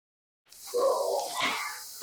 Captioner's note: sighing